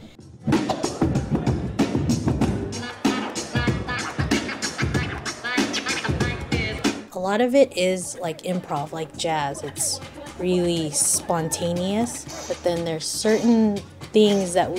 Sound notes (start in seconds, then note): 0.2 hip hop beat; 3.6 record scratching